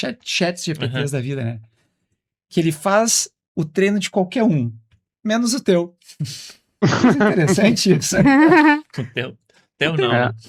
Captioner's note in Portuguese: risadas